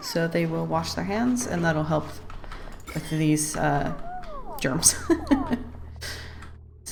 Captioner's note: laughs